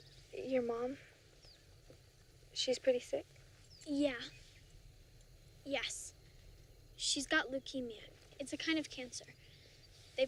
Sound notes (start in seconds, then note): none